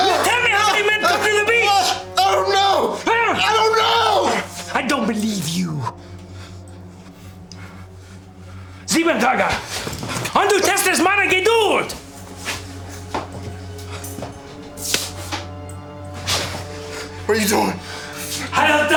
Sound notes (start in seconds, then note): 8.9 officer speaking German; 13.3 ominous music; 18.7 officer speaking German